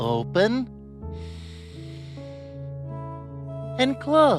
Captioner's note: breathes deeply